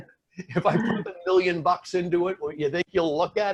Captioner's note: laughing; speaking faintly